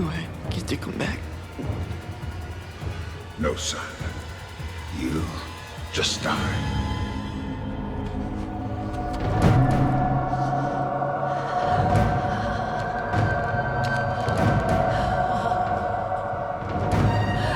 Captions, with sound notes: - Do I get to come back? (intense music) - No son, you just died. (Elaine shivers and moans) (dark intense music)